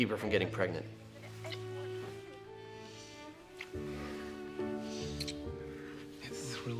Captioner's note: dramatic music; lips smacking